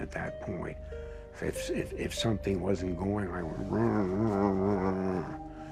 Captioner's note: grumbles